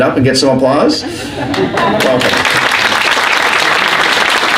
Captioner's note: applause